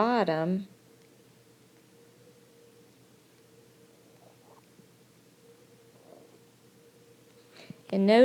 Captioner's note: silence